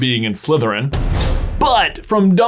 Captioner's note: booming noise and makes hissing noise